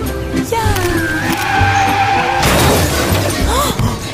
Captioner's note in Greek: Ήχος σύγκρουσης